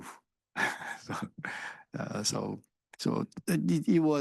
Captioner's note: instructor chuckles